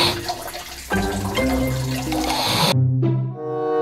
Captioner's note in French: Ronflements